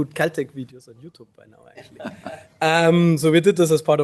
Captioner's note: laughs